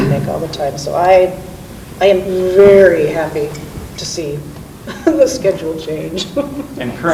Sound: laughs

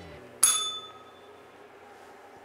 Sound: bell rings

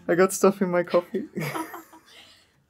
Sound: laughter in the background

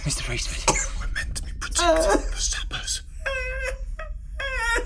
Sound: retches, sobs

